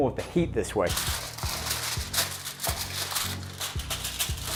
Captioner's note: crinkling